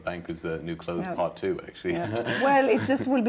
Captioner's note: laughs